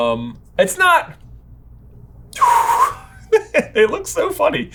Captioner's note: laughing